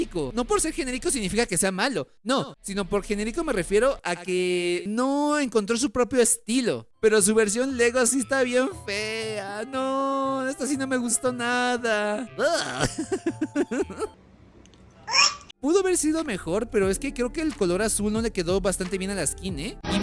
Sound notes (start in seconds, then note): 12.4 laughs